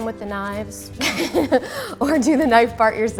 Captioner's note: laughter